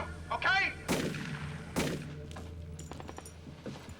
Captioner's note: gunshots